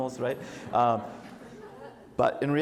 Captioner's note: audience laughs